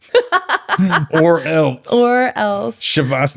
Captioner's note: laughing